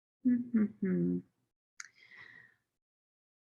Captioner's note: humming